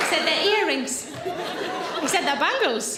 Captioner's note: audience laughing